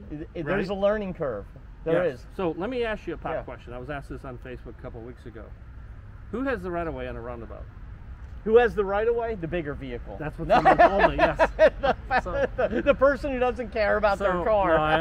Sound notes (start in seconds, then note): 10.4 black-haired guy laughing; 10.4 laughter drowns out speaker